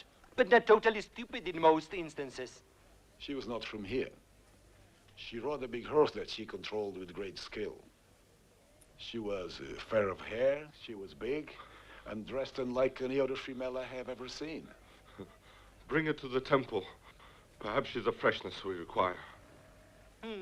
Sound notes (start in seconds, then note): 15.1 Nepakin chuckles